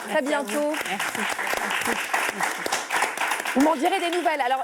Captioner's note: applause